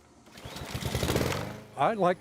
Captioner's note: motor rumbles